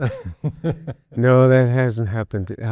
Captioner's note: person laughing